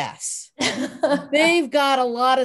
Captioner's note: Soledad laughs